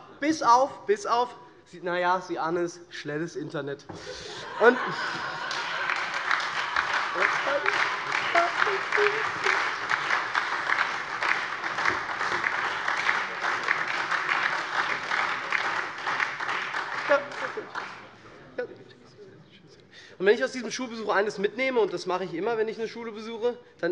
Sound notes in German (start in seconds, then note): 4.0 Heiterkeit und Beifall SPD, Freie Demokraten und DIE LINKE